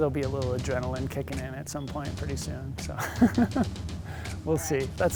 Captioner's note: laughs